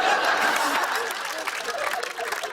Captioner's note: laughter